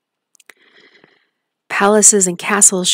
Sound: pause

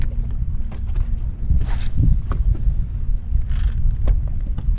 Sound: wind blowing

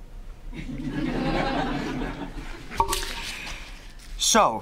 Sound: laughter

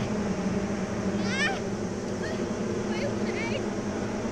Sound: Morgan groaning

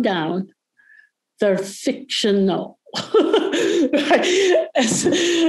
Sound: laughing

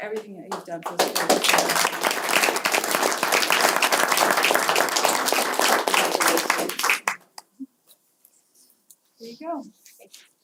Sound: applause

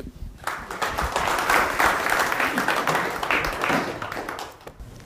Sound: applause

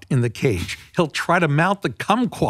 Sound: laughing

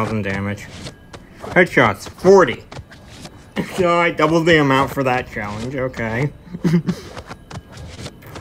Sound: laughs

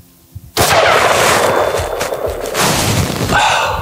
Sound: gun shot

